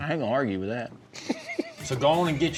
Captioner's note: chuckling